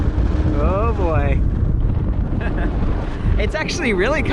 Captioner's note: laughs